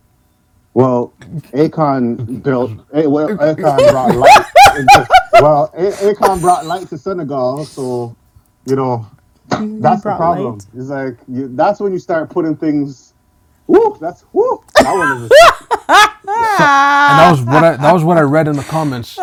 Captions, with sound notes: - Well, Akon built, well Akon brought light into, well Akon brought light to Senegal. So, you know, that's the problem. It's like, that's when you start putting things, whoop, that's whoop. (laughing) - That was what I read in the comments.